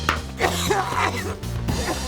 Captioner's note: coughs; laughs